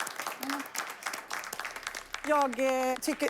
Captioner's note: applause